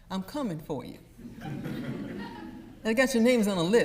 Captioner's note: audience laughs